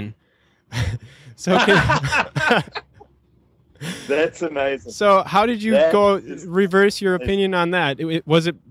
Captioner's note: laughter, both